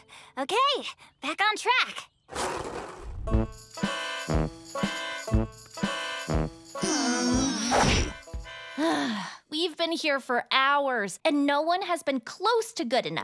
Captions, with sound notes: Okay, back on track. [discordant music] [all groan] - [sighs] We've been here for hours, and no one has been close to good enough.